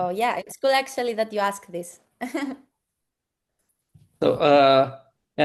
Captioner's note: chuckles